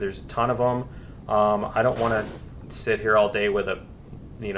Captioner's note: plasma firing